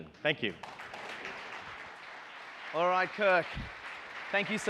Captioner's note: audience applauds